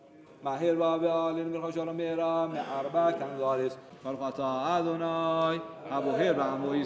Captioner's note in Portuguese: falando em hebraico